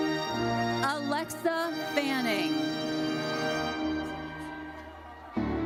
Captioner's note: audience cheers